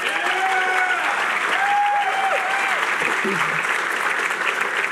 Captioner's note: applause